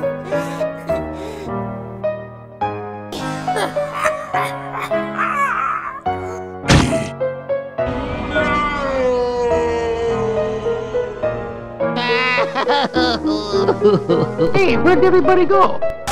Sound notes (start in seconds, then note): 3.1 coughing; 11.0 Luigi Crying; 11.8 crying